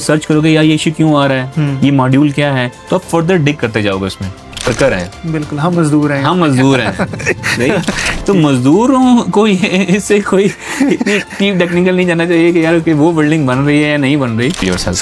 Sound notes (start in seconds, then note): 9.4 laughter